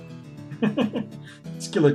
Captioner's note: chuckles